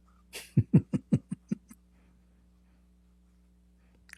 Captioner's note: Ketawa